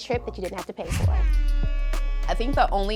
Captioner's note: buzzer